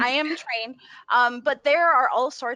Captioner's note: chuckles